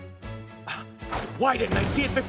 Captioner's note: gasp